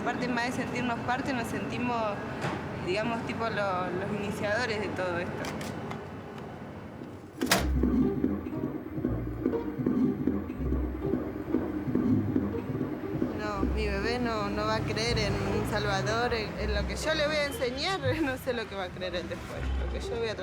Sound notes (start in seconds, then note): 7.7 heartbeat